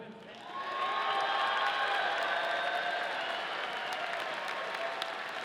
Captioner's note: audience cheering